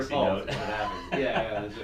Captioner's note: laughter